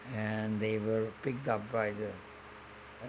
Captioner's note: none